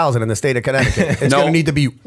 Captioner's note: laughter